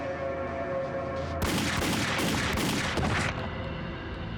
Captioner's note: suspenseful music; gunfire